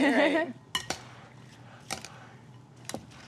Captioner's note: chuckles